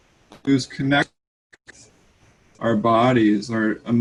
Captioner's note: connection interference